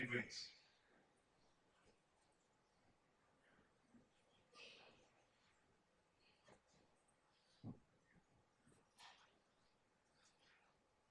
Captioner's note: silence